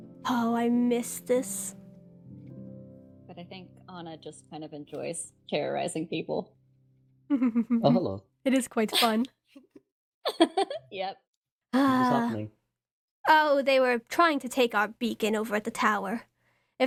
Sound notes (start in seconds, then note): 7.3 ROSE giggles; 10.6 giggles; 11.8 ROSE sighs